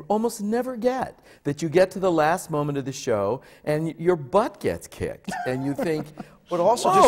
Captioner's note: laughs